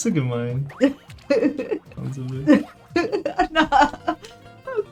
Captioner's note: laughs